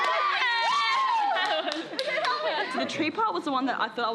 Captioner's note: cheering